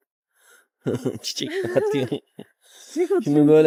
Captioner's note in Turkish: kahkaha